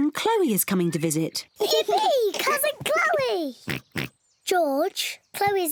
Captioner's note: oinking